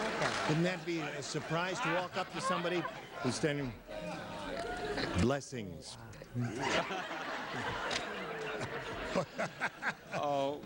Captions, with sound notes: Wouldn't that be a surprise to walk up to somebody who's standing-- Blessings. -(audience laughs)